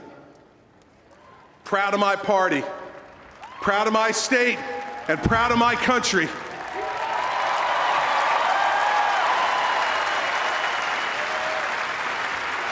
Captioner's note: applause